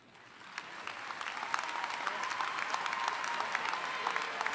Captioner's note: audience applauding